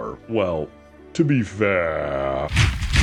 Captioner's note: mech noises